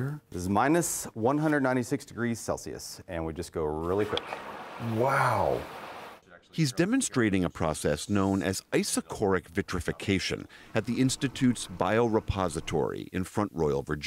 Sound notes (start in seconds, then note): 6.9 voice-over